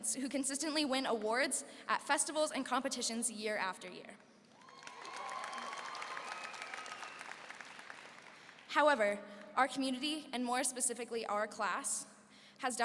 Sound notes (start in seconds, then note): 4.5 applause and cheering